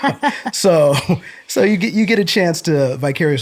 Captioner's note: laughter